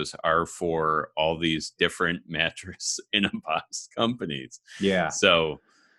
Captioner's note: laughs